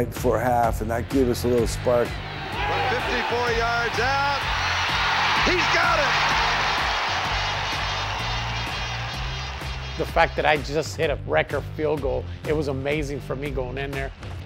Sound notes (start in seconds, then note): 6.3 crowd cheers